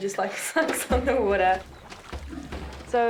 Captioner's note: chuckles